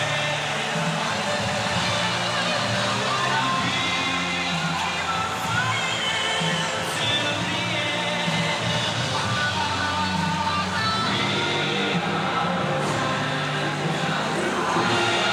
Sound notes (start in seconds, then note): 3.0 cheers and applause